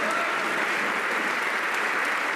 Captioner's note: some Applause